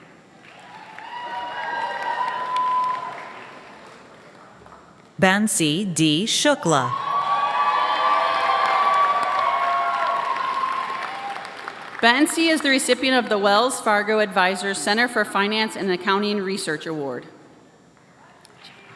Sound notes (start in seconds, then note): 7.5 applause